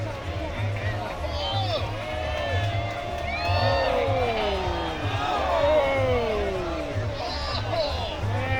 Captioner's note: cheering